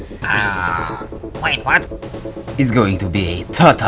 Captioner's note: pain sounds